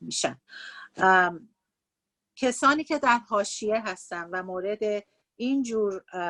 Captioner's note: speaking Farsi; speaking Farsi